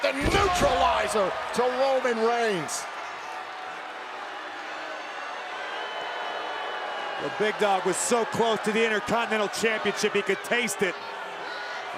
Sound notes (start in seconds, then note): 4.0 applause